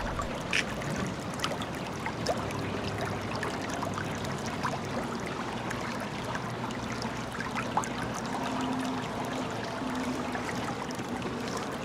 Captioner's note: water running